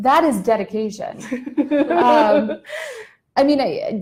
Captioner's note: laughing